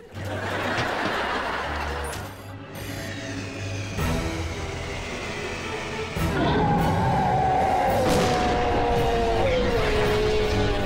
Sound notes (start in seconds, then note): 0.0 laughing; 6.3 yelling